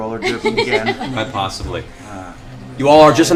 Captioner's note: laughter